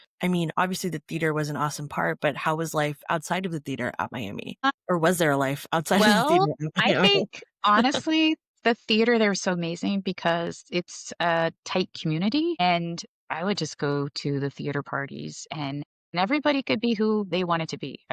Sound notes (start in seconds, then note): 6.8 laughter